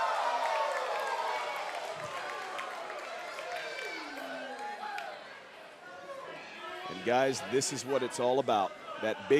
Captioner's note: cheers & applause